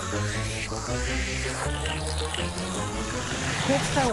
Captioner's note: goofy music; slurping